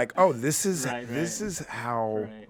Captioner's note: group laughing